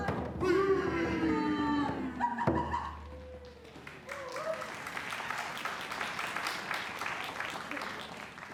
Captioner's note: applause